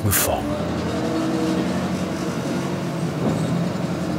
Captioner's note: sound of forklift engine